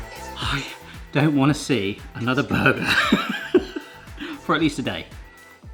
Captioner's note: laughing